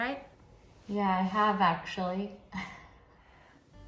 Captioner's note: laughs